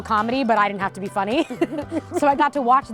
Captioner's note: both laugh